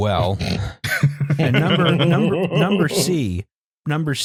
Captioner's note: laughter